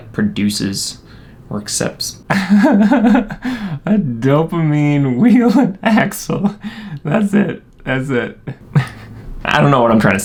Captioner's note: laughing